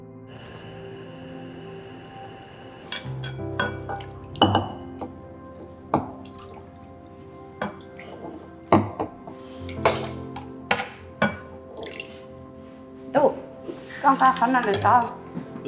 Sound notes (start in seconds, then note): 0.3 gas stove, hissing; 4.4 bowl clink; 7.5 subtle liquid splash, clinking